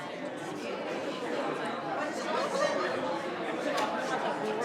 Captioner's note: group quietly conversing